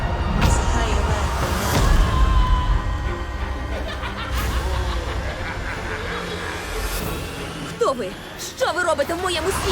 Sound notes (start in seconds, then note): 1.7 distant scream; 3.3 demons laughing